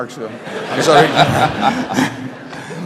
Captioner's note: laughter